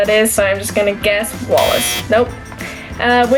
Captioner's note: buzzer